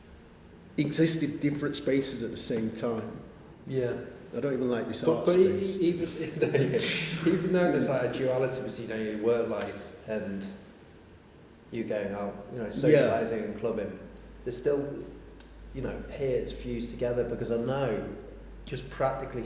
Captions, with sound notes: Exist in different spaces at the same time. I don't even like this art space. [laughter] Even though there's like a duality between, you know, your work life and, you going out... socialising and clubbing. It still appears fused together because I know just practically speaking